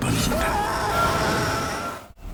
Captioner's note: screaming